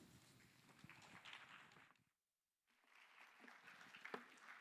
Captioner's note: scattered clapping